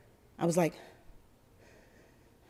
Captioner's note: breathing hard